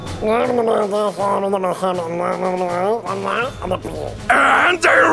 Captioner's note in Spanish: ruidos de trasgo explicativos